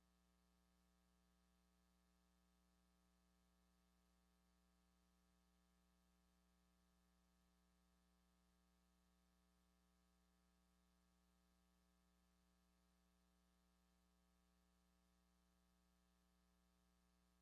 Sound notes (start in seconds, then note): none